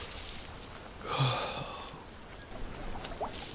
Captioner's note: yawn